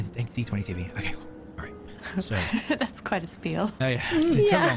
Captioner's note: laughs